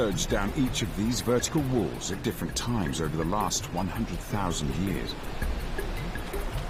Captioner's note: peaceful music; water rushing